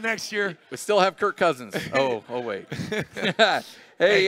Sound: laugh

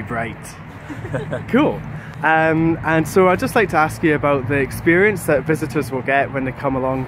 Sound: laughter

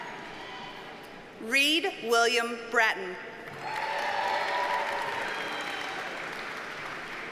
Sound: audience cheers and applauds

